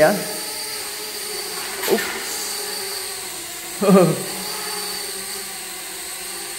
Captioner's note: chuckle